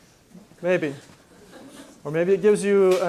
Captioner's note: laughter